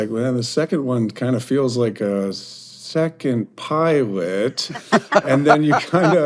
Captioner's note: hosts laugh